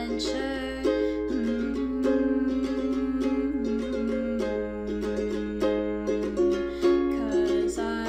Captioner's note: humming